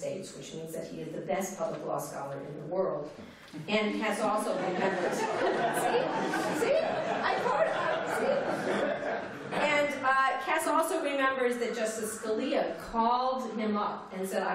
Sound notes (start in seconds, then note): 4.5 laughter